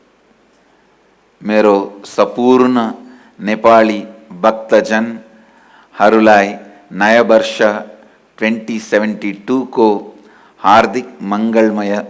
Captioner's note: Hindi